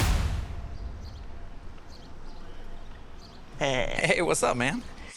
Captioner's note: dynamic music; birds singing